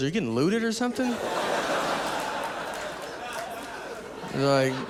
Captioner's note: audience laughing